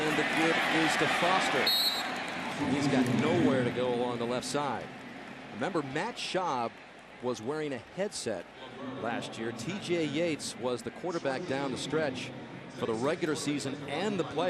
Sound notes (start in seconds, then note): 1.6 whistle blows